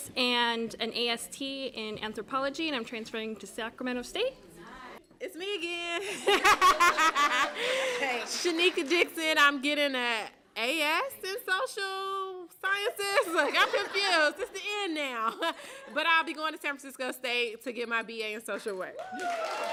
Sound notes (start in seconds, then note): 6.0 laughter; 18.7 applause